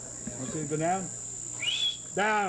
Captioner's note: whistles